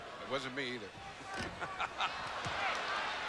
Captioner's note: laughs